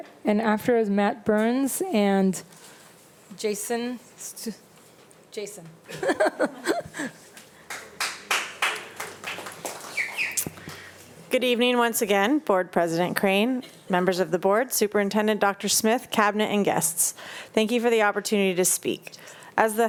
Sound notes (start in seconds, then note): 5.9 laughs; 7.4 attendees applauding; 9.3 attendee whistling